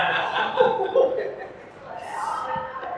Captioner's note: hohohoho